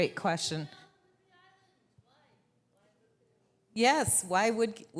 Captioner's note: audience member speaking quietly